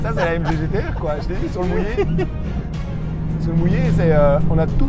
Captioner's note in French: Rire